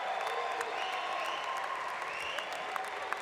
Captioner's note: applause